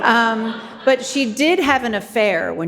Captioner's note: audience laughing